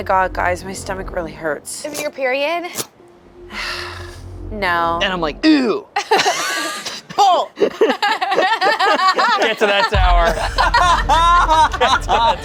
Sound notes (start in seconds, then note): 3.4 sighs; 5.9 group laughs; 7.5 laughs; 11.2 group laughing